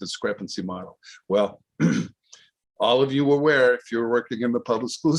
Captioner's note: clears throat